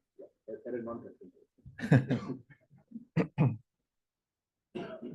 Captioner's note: laughter